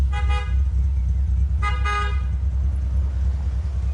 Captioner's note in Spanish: Sonido del claxon